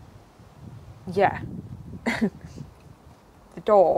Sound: scoffs

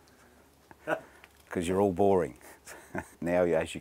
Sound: laugh

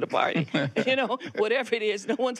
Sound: laughs

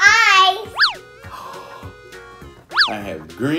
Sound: gasping

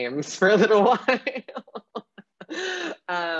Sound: laughing

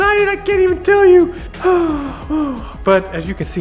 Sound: sighs happily

